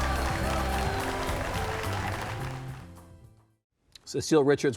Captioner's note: clapping and upbeat music